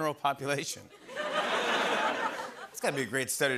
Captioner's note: laughter